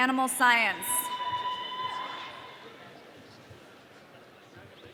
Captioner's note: audience cheering